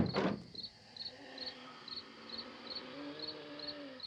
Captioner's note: wheezing, groaning